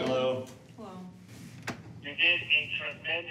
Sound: on phone

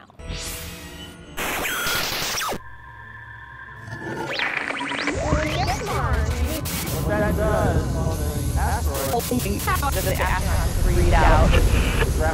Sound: sound Effects

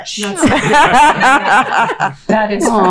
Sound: all laughing

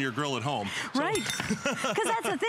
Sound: laughter

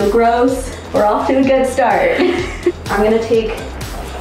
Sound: laughs

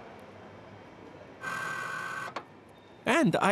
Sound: buzzing

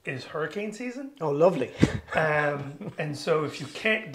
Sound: chuckles

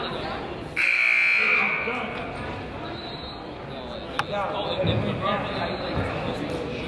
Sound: buzzer honks; whistle blows; whistle blows

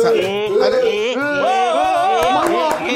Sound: claps

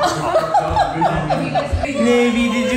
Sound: laughter

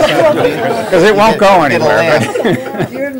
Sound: laughter

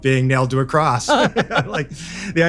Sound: laugh

